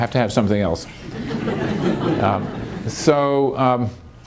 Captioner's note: laughter